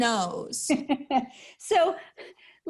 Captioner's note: laughing